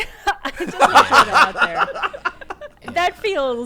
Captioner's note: group laughing